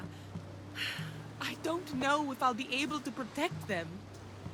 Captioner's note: sigh